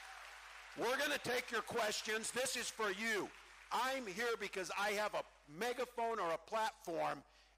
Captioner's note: cheering